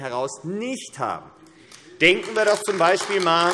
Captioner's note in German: Beifall AfD